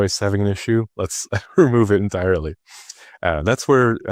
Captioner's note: chuckles